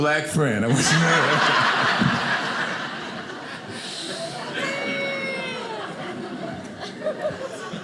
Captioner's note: audience laughing